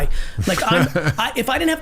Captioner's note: Mark laughing